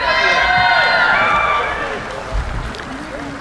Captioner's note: cheering